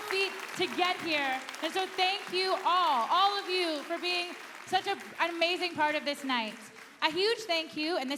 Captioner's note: applause